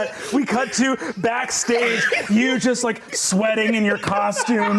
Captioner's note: laughing